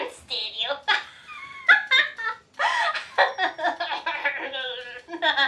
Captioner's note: laughing